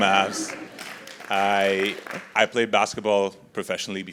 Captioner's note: applause